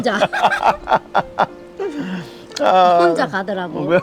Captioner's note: both laughing